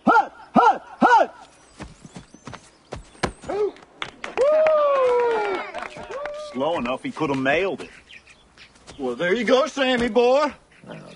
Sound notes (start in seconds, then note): 3.1 ball impacts; 3.9 crowd cheers